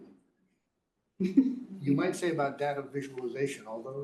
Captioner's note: laugh